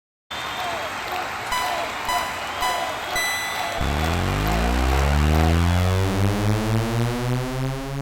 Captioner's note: crowd cheering, race start signals from Pitstop, cars accelerating